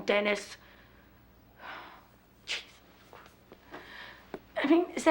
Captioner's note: sighs